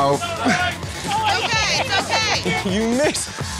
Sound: laughter

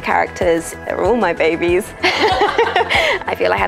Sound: laughs

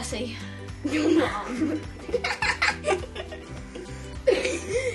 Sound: laughter

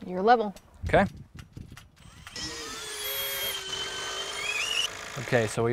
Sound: drill whirring, no additional audio

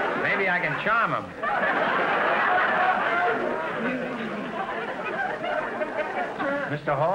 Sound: audience laughter

